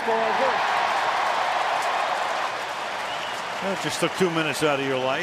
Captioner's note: crowd cheering